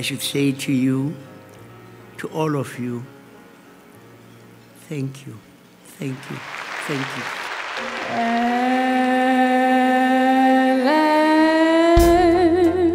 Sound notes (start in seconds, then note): 6.0 applause